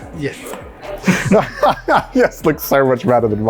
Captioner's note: laughs